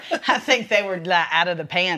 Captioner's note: laughs